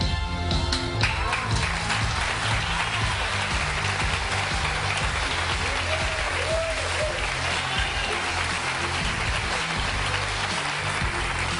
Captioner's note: audience applause